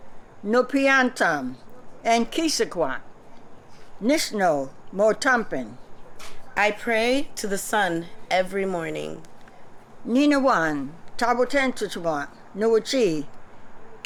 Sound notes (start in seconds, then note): 4.0 non-english speech